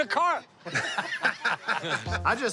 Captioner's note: laughter